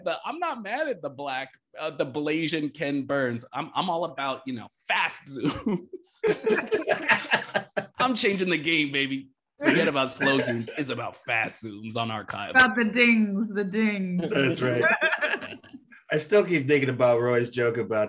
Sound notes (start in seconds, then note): 5.4 all chuckle; 14.3 all chuckle